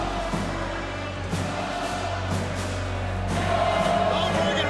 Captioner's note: crowd continues chanting "Goldberg"